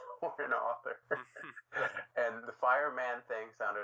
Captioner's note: chuckling